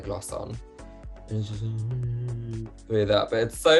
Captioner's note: mumbles